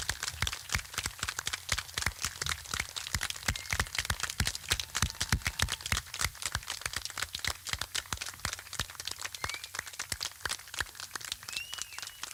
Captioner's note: clapping